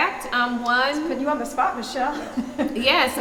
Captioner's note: chuckling